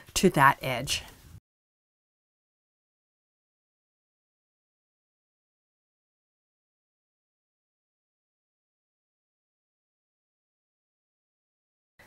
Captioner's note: no Sound Present